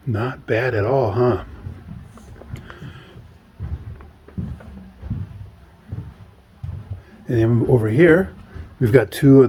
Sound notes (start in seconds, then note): 0.6 feet thudding